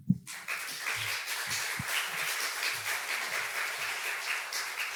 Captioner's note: audience applauding